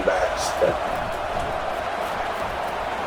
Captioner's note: crowd Noises